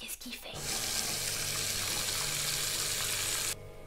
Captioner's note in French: eau qui coule